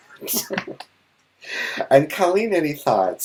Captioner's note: laughing